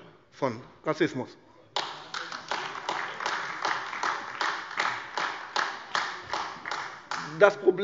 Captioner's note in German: Beifall AfD